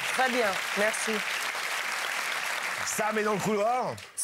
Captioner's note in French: applaudissements